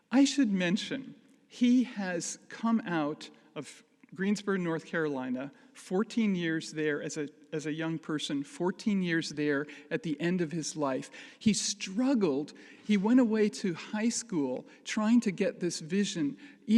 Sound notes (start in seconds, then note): none